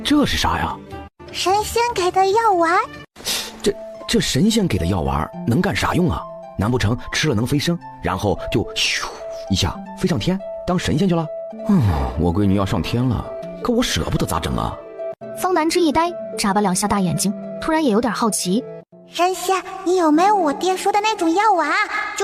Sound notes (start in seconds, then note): 8.3 poof